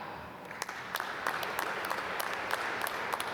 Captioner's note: applause